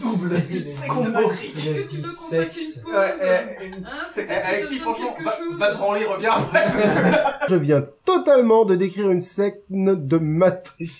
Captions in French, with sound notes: -Double combo ! -"Une sexe de Matrique" ! -Il a dit "sexe". -Ouais ouais, une s.. Et Alexis franchement vas, vas te branler reviens parce que là ...*Rires* -Je viens totalement de décrire une sexmdl de Matrix..